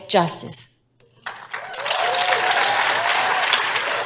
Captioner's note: applause